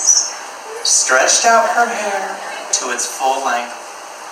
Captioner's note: audience laughs